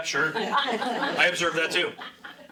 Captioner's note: laughing